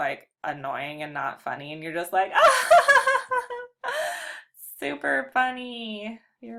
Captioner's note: laughs